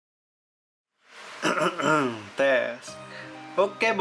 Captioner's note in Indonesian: batuk